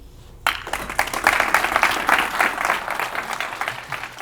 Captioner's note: audience applause